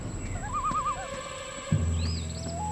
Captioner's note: birds chirping